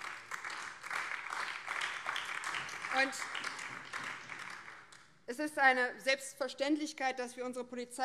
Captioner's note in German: Beifall BÜNDNIS 90/DIE GRÜNEN